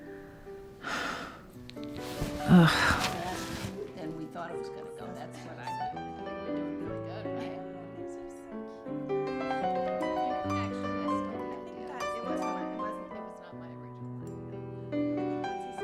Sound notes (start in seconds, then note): 4.2 chattering